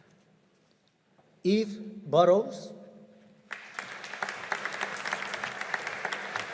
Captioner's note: audience applauding